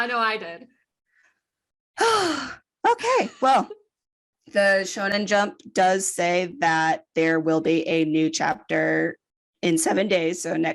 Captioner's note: sigh